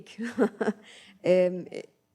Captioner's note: laughs